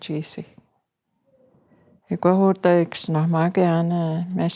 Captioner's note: In Cree, English to follow